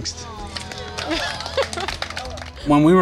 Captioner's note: group clapping; laughs